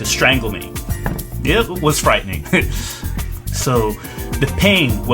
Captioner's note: laughs